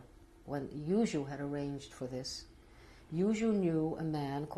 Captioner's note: non-english